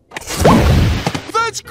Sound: boom

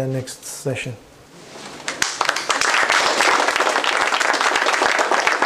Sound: applause

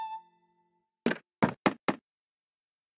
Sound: footsteps

